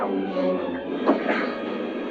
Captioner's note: thudding